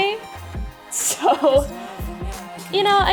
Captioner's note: laughing